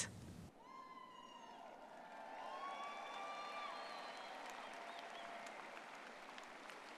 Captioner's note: graduates cheering; audience clapping